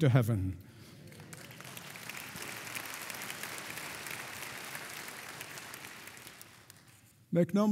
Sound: congregation applauding

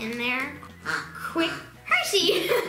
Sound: duck quacks

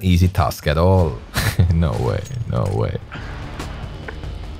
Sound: snickers

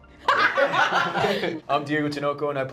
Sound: group laughing

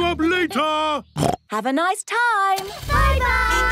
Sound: snorts

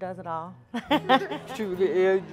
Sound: laughing

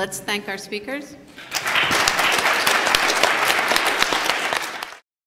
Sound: applause

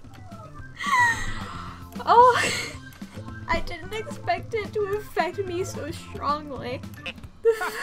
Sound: sharply inhales; through laughter

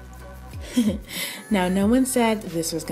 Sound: giggling

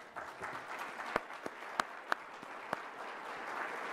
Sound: applause

